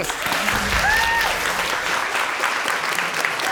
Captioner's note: applause and whooping